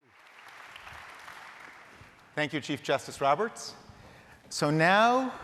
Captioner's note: applause